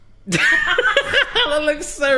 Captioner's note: laughs